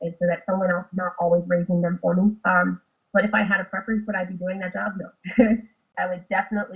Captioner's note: laughs